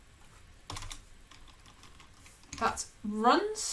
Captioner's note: keyboard clicking